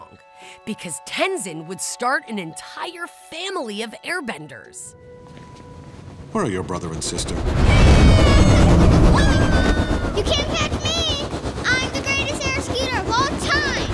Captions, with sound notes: because Tenzin would start an entire family of airbenders. Where are your brother and sister? [shouting] You can't catch me! I'm the greatest air skater of all time!